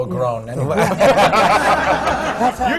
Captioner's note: laughter